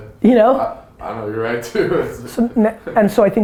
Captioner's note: laughs